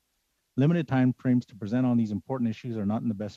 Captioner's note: speaking alternate language